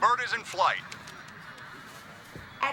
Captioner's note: crowd